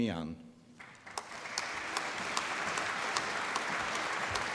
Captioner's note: applause